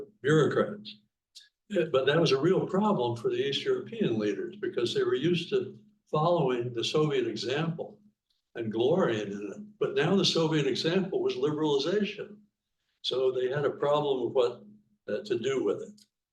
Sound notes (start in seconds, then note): none